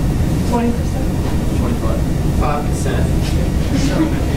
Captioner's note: audience responds